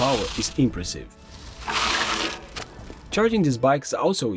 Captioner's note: tires dragging sound